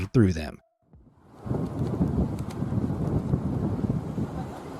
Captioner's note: wind whirring